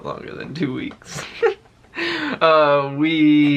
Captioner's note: chuckles